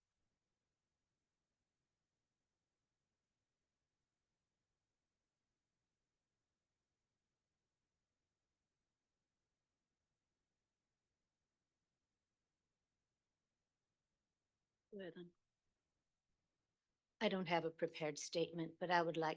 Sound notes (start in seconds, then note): 1.3 audio cuts out